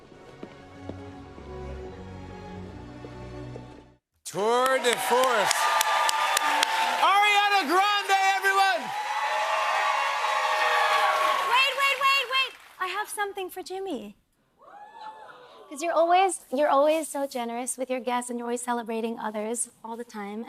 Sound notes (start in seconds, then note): 5.2 cheers and applause